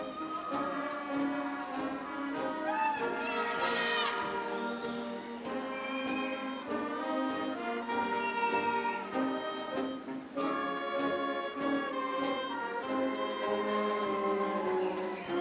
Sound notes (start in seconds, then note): 3.0 audience member shouts; 5.9 upbeat ceremonial music